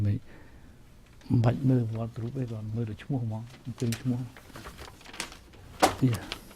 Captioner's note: speaking native language